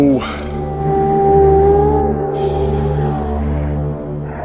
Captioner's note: distant howling